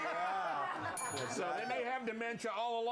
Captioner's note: laughter; bell rings